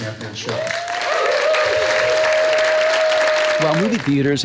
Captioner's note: cheers and applause